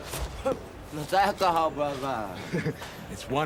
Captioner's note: laughs